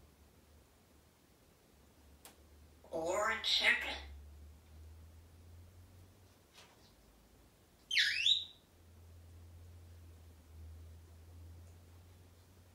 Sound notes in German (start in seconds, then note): 7.9 squeak sound